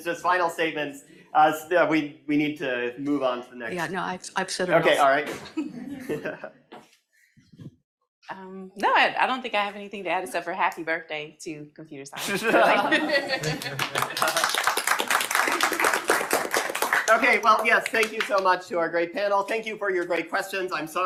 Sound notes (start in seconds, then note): 12.2 audience laughing; 13.2 audience applauding